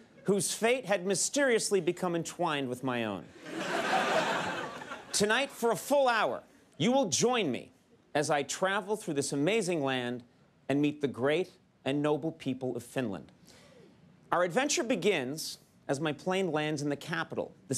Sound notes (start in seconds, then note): 3.4 audience laughs